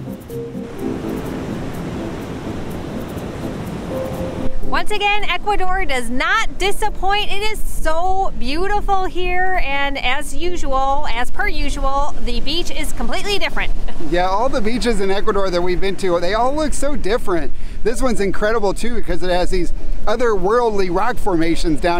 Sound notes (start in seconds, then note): 0.0 waves crashing